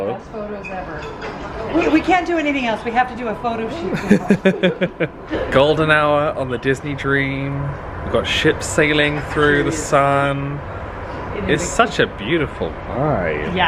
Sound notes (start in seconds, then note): 3.8 laughing